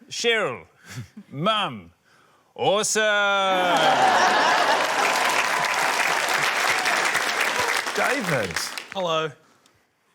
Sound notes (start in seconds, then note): 3.5 laughter, applause